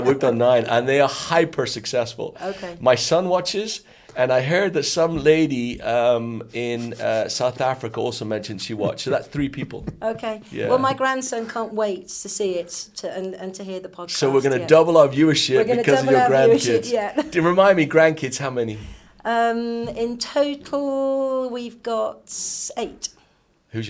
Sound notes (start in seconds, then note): 15.1 laughing